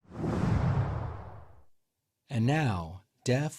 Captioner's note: air whooshing